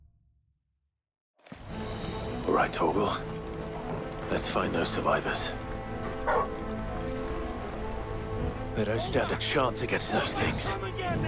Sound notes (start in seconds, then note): 6.2 bark